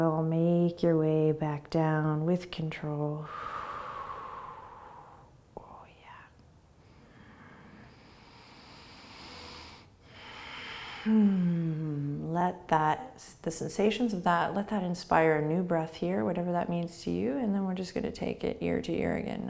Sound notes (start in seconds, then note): 3.2 exhaling; 6.8 breathing